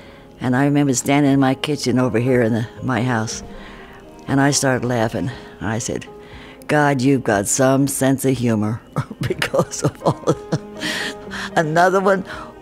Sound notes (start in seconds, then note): 9.0 laughs